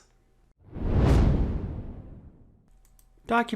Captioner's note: whoosh